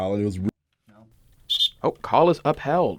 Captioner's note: whistle